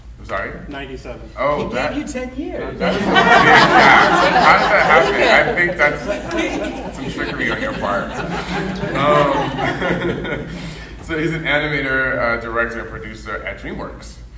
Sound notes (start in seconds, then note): 3.6 panel and audience laughing; 4.4 laughing drowns out speaker